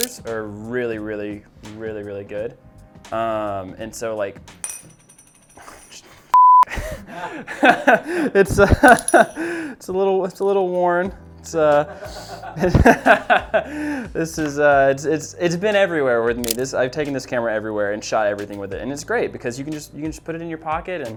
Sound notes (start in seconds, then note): 4.6 metal clinks; 6.7 laughs; 11.9 laughs